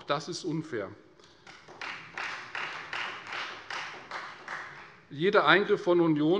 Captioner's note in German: Beifall Freie Demokraten